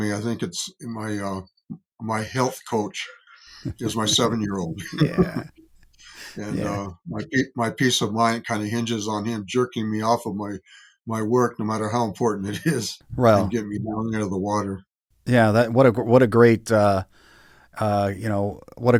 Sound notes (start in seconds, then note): 3.6 chuckling